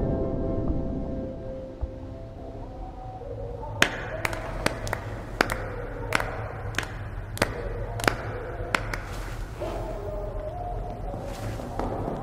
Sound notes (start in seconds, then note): 3.8 claps